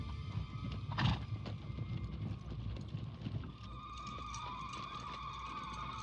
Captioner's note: wailing